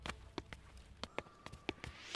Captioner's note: Footsteps